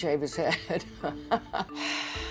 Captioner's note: chuckles